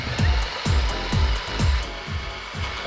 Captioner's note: food processor mixing